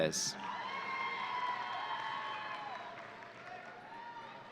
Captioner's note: audience cheering